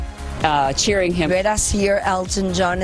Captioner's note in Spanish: hablan en ingés